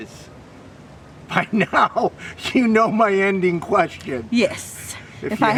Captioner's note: laughs